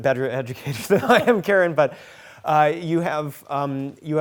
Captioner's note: laughing